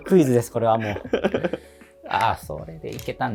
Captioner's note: laughing